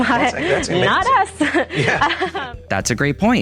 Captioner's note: laughs